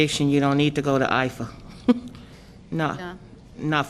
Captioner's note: laughter